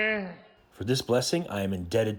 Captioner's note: through translator